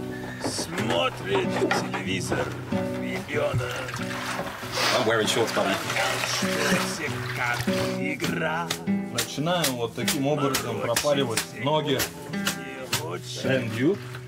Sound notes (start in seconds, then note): 0.2 singing in foreign language; 8.7 banya rattling; 8.7 speaking in foreign language